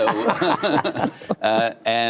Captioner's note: laughter